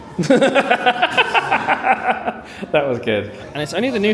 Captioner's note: laughs